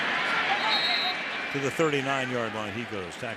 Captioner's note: whistle blows